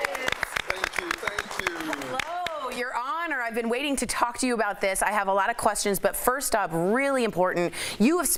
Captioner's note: applause